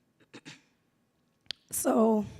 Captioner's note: coughs